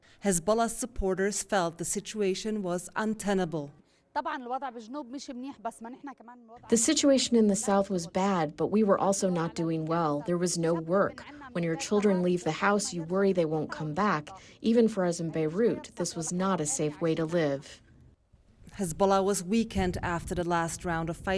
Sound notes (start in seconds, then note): 5.4 through translator